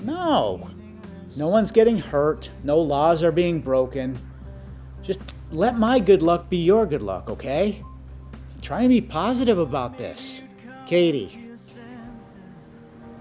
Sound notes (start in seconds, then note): none